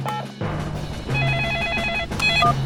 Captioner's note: phone beeping; phone ringing